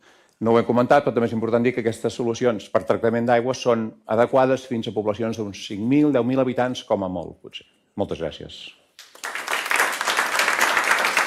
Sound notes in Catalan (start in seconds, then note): 9.0 Aplaudiment